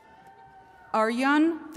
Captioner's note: attendees cheering